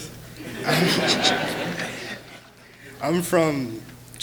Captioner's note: laughing